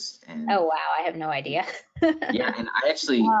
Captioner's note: laughs